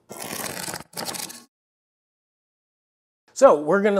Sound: cardboard ripping

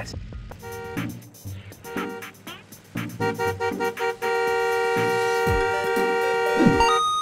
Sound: honking

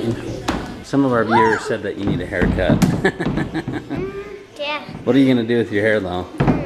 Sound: laughs

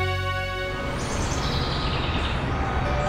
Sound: intro music; birds chirping; birds chirping and music

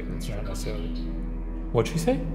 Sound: automated Voice

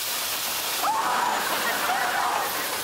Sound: screaming

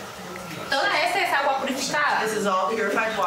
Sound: speaking foreign language

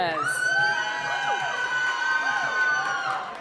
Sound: cheering

